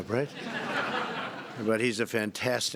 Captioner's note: laughter